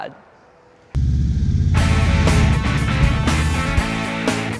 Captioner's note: motorcycle engine; upbeat rock music